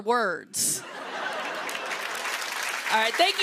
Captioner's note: laughter and applause